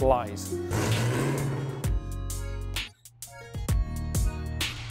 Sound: engine roars

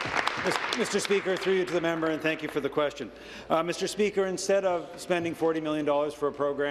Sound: applause

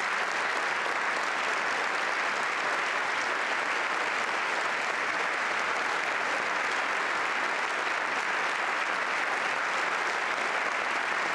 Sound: applause

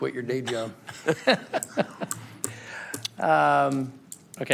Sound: laughter

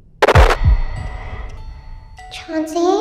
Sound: static crackles

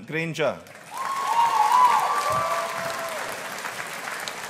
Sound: audience applauding

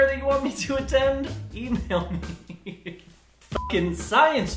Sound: laughing

